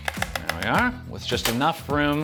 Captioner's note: strainer clinking